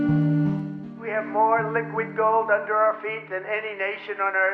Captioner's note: Donald Trump speaking